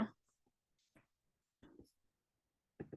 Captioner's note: silence